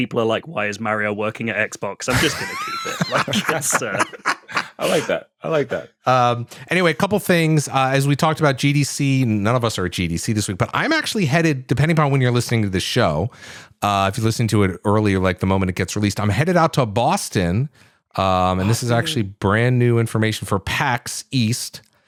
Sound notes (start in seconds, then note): 2.1 laughter